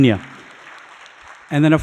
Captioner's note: audience applauding